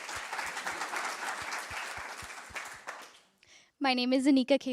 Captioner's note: applause